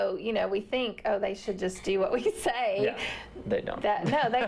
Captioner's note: laughter